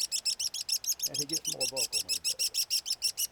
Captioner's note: chirping